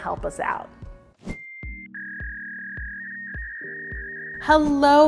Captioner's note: dial-up connection buzzing